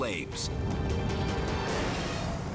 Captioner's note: flames roaring